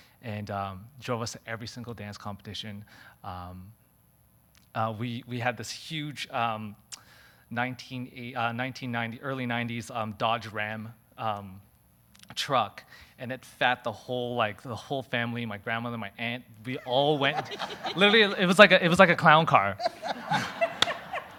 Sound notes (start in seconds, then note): 16.7 audience laughing